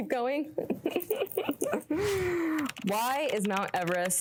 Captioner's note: laughing